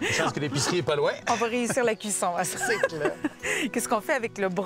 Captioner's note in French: rires